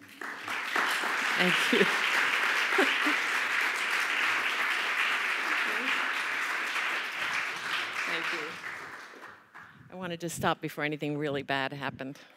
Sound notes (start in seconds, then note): 0.1 applause